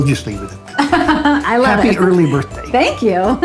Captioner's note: laughing